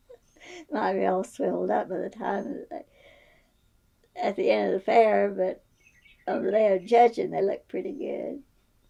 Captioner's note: laughs